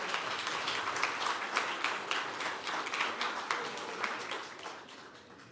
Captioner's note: audience applause